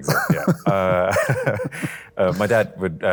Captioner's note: both laughing